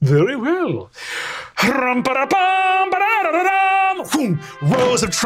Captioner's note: imitates trumpet music